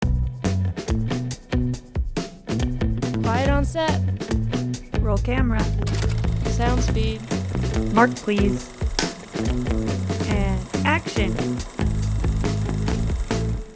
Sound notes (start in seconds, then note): 5.9 camera whirs; 8.9 slate claps